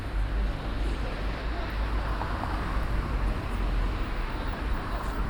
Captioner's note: traffic thrums